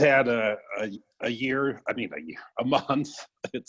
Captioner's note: laughs